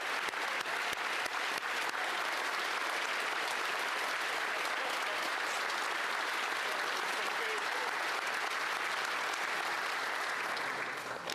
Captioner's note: applause